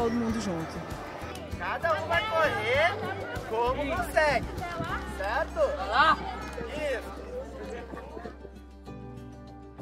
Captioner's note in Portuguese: Sons de professores e alunos